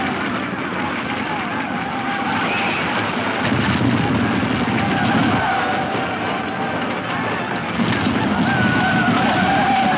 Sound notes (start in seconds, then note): 3.4 hooves thudding